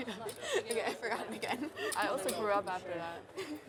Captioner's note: laughs